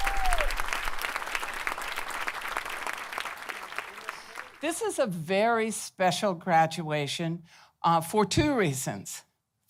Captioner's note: applause